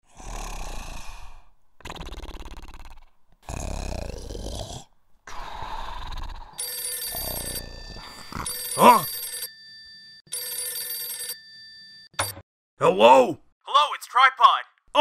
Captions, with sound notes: (snoring) (phone ringing) Huh? Hello? Hello, it's Tripod!